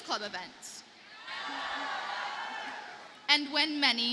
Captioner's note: audience cheers and applauds